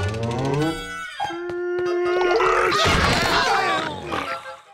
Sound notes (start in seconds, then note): 2.8 groaning